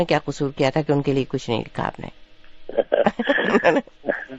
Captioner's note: jokingly